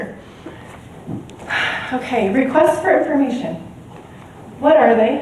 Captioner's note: sighs